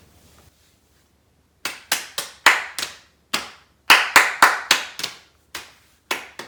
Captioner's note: clapping and tapping